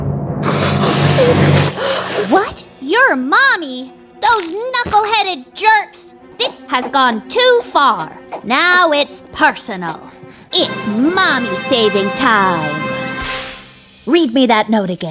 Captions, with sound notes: [blowing nose] [gasps] What? Your Mommy! Those knuckle-headed jerks! This has gone too far. Now it's personal. It's Mommy-saving time. Read me that note again.